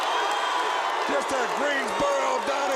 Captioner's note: crowd cheering